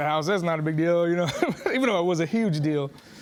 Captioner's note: chuckles